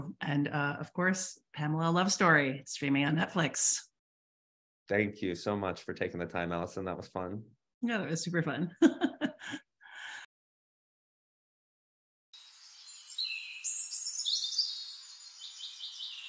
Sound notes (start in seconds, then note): 8.7 laughs; 12.6 birds chirping